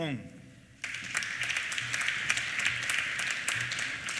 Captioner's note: applause